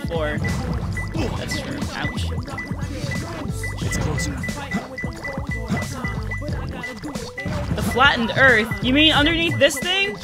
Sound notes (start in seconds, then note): 2.3 radar pinging; 4.4 radar pinging faster